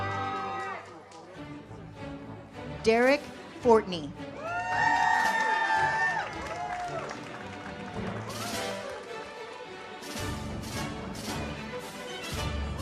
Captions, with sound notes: Derek Fortney. (audience cheers) (uplifting music)